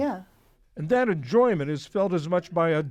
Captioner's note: voice-over